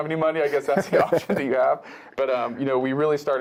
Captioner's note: laugh